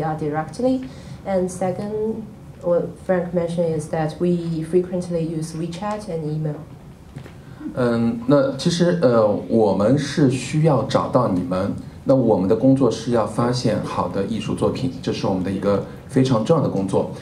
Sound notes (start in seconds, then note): 9.3 speaking in Mandarin